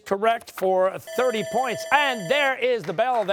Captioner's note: bell ringing